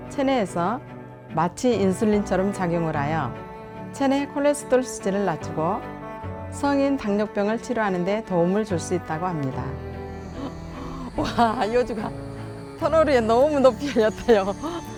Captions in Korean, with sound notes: 체내에서 마치 인슐린처럼 작용을 하여 체내 콜레스테롤 수치를 낮추고 성인 당뇨병을 치료하는데 도움을 줄 수 있다고 합니다 -(웃음)와! 여주가 -터널 위에 너무 높이 열렸다, 요